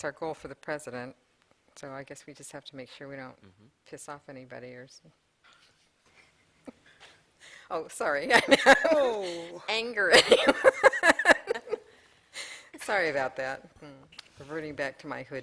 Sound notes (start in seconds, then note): 10.1 laughter